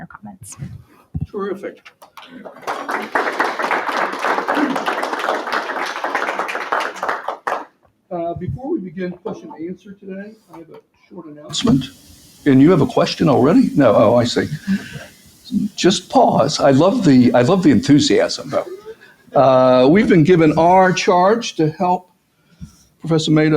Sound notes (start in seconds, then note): 1.9 applause